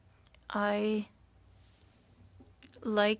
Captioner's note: speaking French